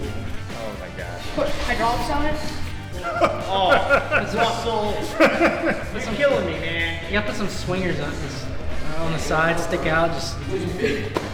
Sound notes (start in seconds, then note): 3.7 laughs